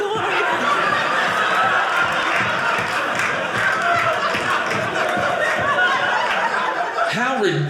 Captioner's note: audience laughing